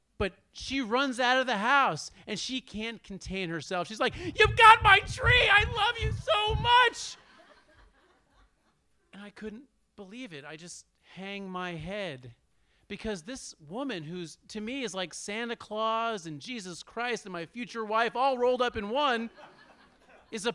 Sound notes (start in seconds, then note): 6.9 audience laughs